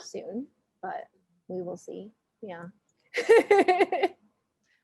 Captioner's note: laughing